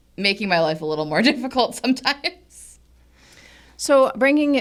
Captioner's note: laughs